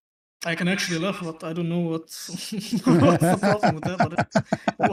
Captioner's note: laughter